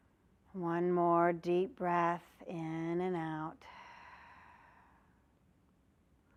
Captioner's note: breath sound